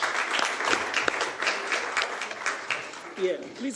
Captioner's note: audience applauding